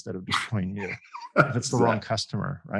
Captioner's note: laughs